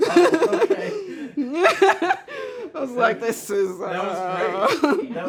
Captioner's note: laughs